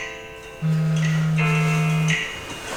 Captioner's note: alarm going off